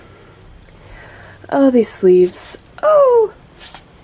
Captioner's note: high-pitched squealing noise